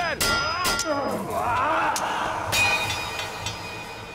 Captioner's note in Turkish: Kılıç sesleri